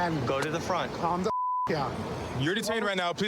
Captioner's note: beep